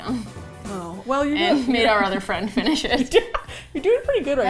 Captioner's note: laughs